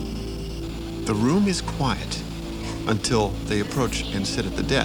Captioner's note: voiceover